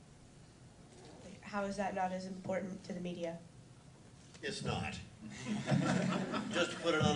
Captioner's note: laughter